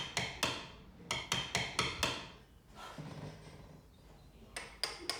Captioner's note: dummy hitting chisel